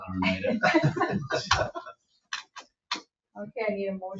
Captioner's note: people chuckling